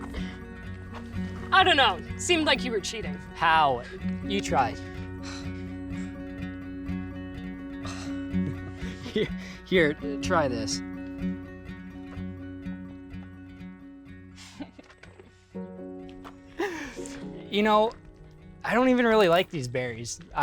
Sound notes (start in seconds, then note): 7.8 Summer sighs; 8.4 Dev chuckles; 14.4 Summer chuckles